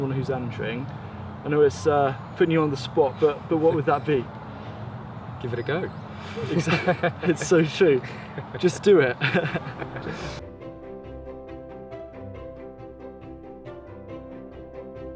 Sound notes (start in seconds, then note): 6.2 laughs; 9.1 both laugh